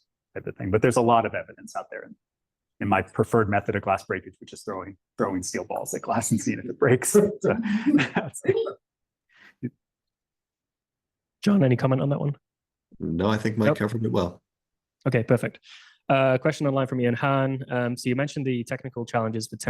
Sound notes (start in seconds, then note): 5.9 chuckles